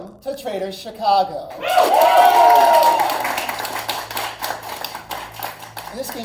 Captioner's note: cheers & applause